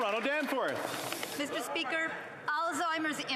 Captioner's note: applause